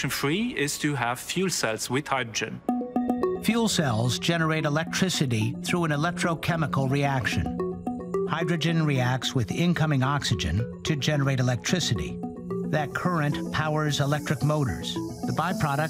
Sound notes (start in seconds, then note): none